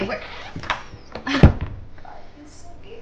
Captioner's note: door latch clicks; door thuds